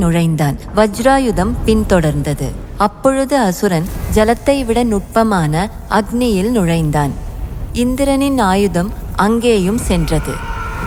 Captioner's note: fire